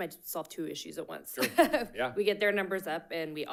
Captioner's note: laughing